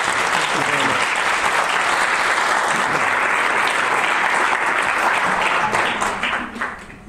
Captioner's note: audience applause